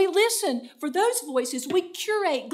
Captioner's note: in foreign language